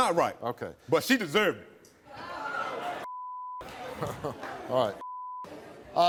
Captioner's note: beep